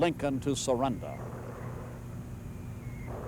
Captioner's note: mortar fire booming